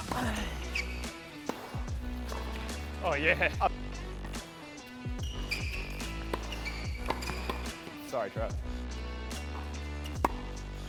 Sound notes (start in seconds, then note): 0.0 ball thuds; 0.2 grunts; 4.4 upbeat music; 5.1 shoes squeak; 9.0 upbeat music